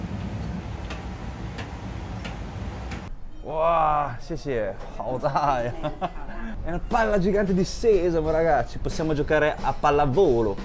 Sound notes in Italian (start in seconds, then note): 5.0 risate